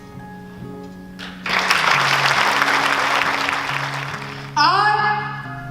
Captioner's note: clapping